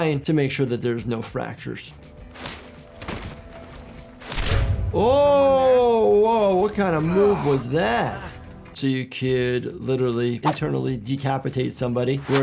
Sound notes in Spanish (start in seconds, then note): 4.4 chasquido de cuello; 4.4 música dramática